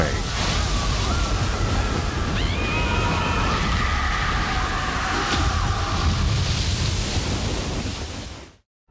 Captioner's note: dome Shatters While People Panic